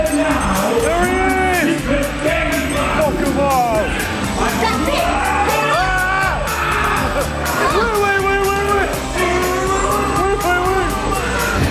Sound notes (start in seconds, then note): 5.0 screams and WAITs